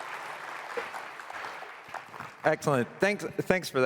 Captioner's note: applause